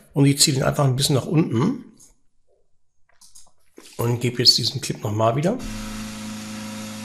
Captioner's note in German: Gebläsegeräusch